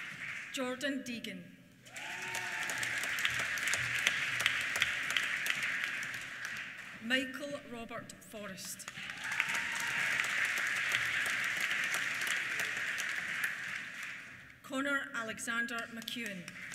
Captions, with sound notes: Jordan Deigan. (CHEERS) (APPLAUSE) Michael Robert Forrest. (CHEERS) (APPLAUSE) Connor Alexander McKeown.